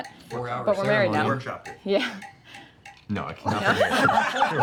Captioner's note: clinking his mug